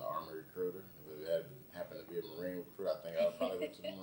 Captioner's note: laughs